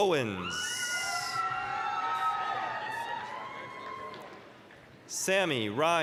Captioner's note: applause, cheering